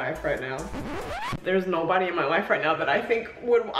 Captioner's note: record scratches